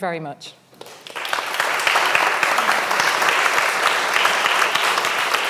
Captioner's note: audience applauding